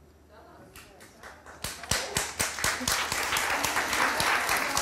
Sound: audience applauds

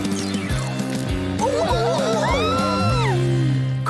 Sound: screaming

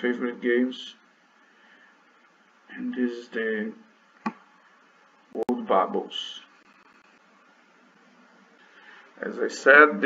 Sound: click

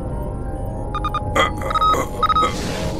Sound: bionic eye beeps

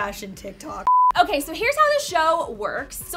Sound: beep

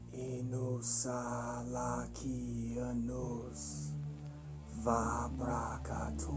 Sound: reverend chanting in foreign language

